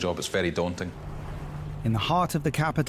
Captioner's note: traffic humming